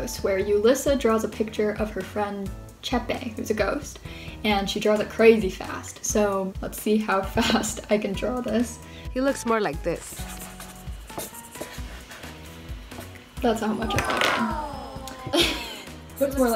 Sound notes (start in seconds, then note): 10.1 marker scraping; 14.4 laughing